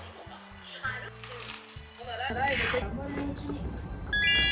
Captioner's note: Crunch